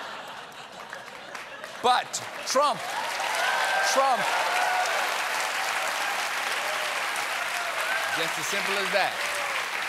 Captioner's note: laughter; cheers and applause